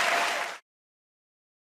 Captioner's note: cheers and applause